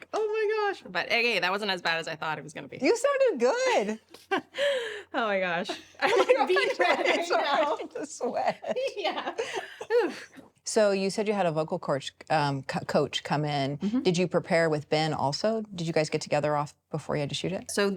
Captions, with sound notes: like, oh my gosh. But hey hey, that wasn't as bad as I thought it was gonna be. - You sounded good! - (laughs) Oh my gosh. (They both laugh) - The sweat! - Yeah! - So you said you had a vocal coach, coach come in. Did you prepare with Ben also? Did you guys get together off before you had to shoot it?